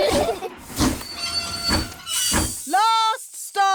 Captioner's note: laugh; train chugs